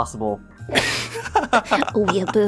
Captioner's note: laughing